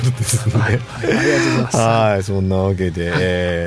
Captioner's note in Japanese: 笑い